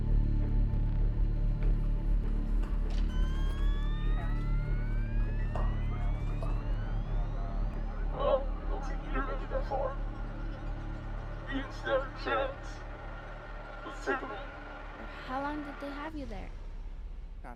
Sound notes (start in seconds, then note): 3.0 digital whirring; 8.4 digital Male Voice